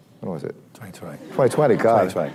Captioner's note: laughter